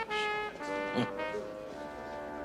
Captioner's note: chuckles